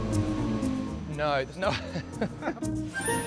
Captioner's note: laughs